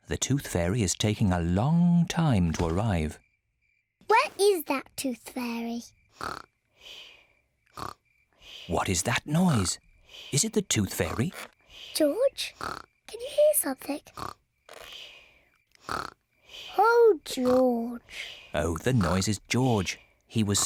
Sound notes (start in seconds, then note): 6.2 snoring; 15.8 snoring